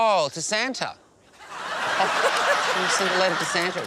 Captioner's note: laughter